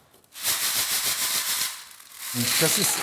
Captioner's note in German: Klappern